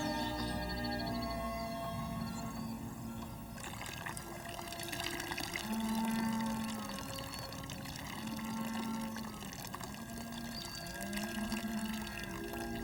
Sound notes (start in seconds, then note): 11.0 water trickling out of pipe